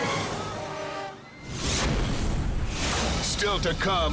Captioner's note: squashing sound